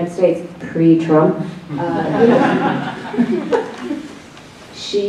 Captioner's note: laughs